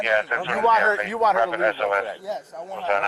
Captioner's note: radio chatter